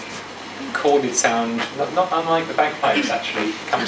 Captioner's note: audience laughs